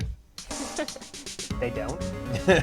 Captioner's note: laughs